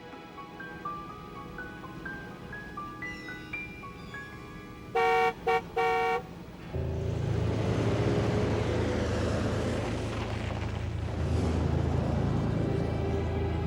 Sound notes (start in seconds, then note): 4.9 car honks